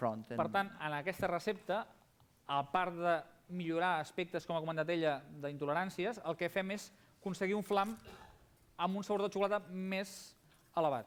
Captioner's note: non-english speech